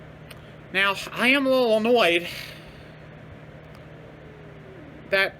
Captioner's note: Caprice growls in anger